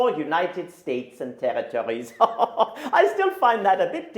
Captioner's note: laughs